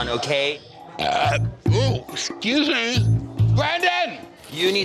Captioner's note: beep; belches